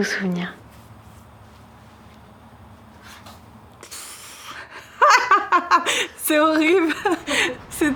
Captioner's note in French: rires